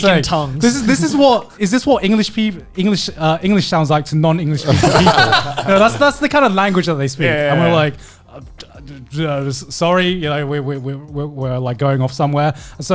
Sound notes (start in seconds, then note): 4.6 laughing